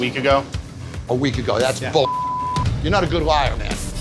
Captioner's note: beep